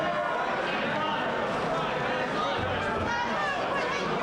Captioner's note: ambient chatter